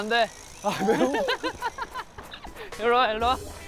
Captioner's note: giggling